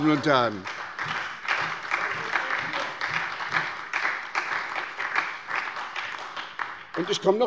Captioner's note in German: Beifall bei der SPD